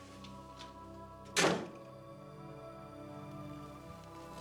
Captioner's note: door Closes